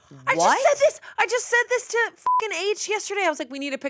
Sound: beep

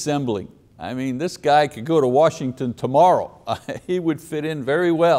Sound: laughs

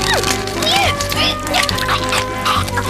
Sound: chocking; gasping

